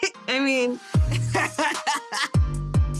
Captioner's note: laughs